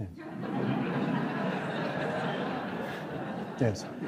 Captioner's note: audience laughs